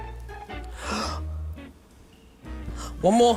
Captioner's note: gasps